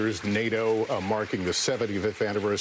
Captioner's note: applause